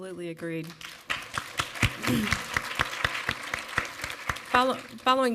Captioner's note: audience applaud